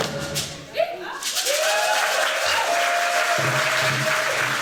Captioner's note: applause